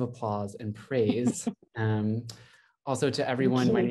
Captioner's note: laughs